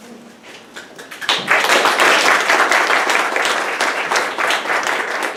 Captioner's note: audience applauding